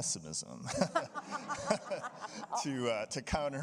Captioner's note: audience laughing